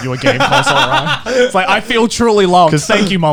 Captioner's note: laughing